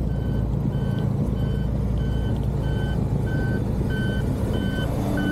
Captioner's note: loud beeping